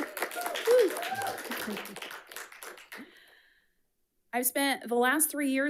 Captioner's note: audience cheering; audience applauding